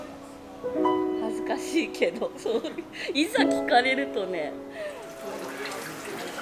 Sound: laughs

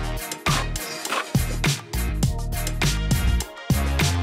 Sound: upbeat music; trowel scrapes

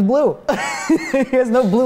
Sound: laughing

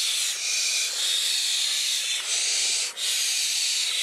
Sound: hissing

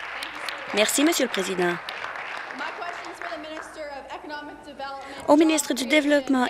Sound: applause

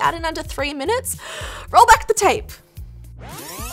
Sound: inhales; tape zooms

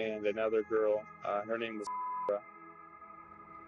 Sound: beep

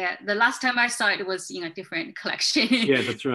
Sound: chuckling

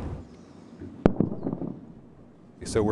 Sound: sound of single sonic boom

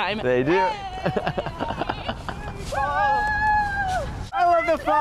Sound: cheering

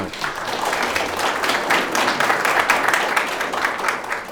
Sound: audience applause

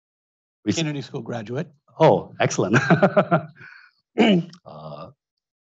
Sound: laughs

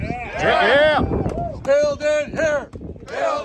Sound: crowd; cheers

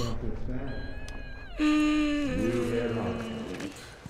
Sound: hums uneasily

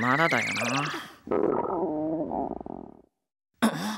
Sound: growl

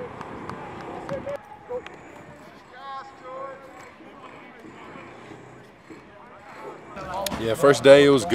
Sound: clapping

